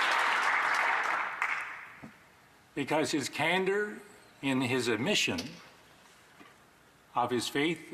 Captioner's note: applause